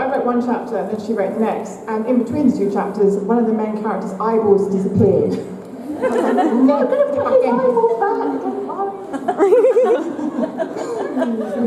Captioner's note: laughter